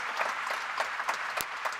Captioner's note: applause